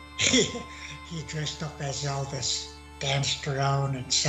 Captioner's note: laughing